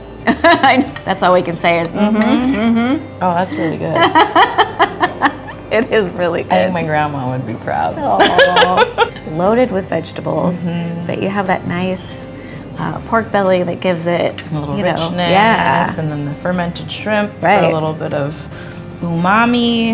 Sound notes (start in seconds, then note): 3.6 laughter; 8.0 laughs